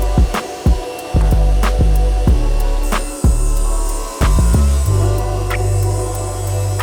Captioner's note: chill music; saw whirring